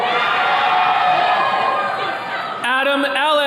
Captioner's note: attendees cheering